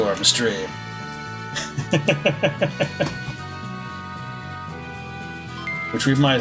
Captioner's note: laughs